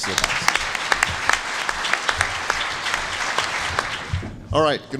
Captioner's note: applause